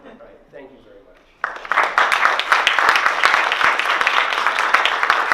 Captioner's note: applause